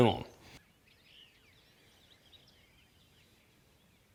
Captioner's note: birds tweeting